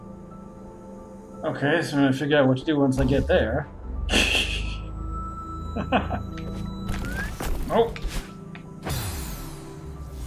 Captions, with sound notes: Okay, so I'm gonna have to figure out what I do once I get there. [chuckles] Nope!